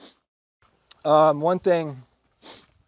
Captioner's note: sniffling